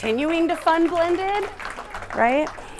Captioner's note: applause